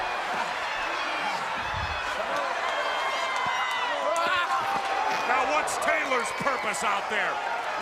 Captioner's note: crowd cheering